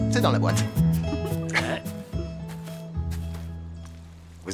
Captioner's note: laughs